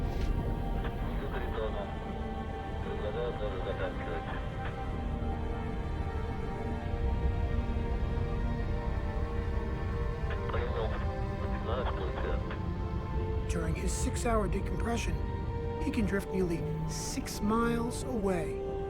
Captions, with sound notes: (man speaking in foreign language) (man speaking in foreign language) During his six-hour decompression, he can drift nearly six miles away